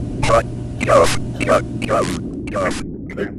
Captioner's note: cough; ahem